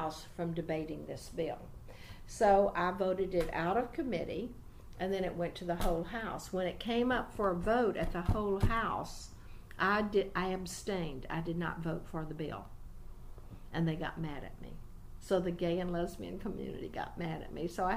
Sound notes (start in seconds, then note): 7.4 resumes tapping table; 12.3 slightly exasperated